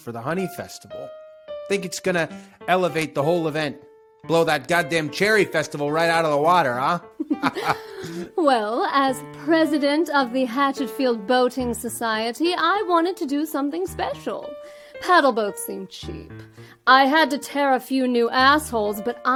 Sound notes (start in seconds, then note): 7.2 laughs